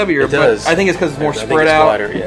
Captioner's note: voiceover